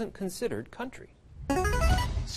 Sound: buzzer plays

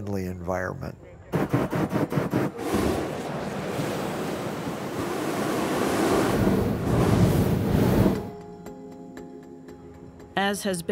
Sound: burners firing

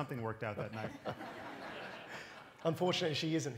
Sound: laughter

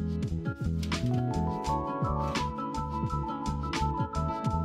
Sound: paper rustles

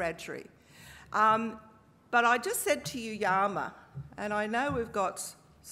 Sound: speaking aboriginal language

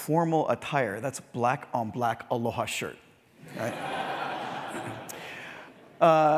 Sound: laugh

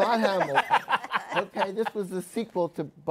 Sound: laughs

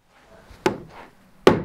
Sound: knock

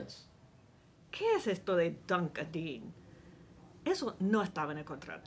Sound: speaks in foreign language

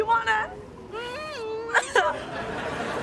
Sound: crying; audience laughing

